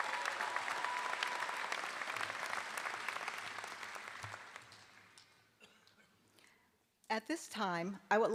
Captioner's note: applause